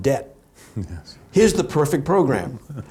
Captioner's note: laughs